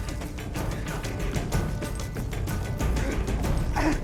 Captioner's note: grunts